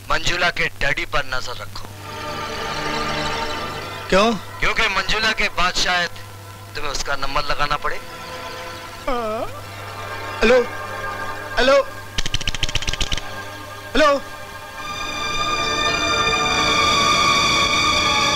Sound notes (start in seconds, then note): 9.0 yawns; 12.1 phone switchhook rumbles